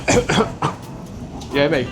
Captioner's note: coughs